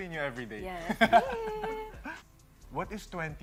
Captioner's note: chuckles